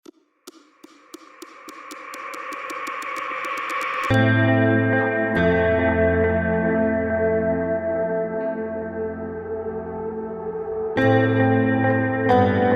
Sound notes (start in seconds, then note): 0.8 ticking; 4.3 mellow music